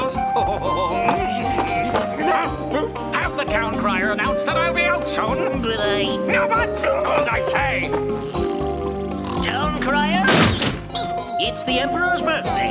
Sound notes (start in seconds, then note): 1.4 Emperor laughs happily; 1.6 Wizard cries out in surprise; 7.6 Town crier snoring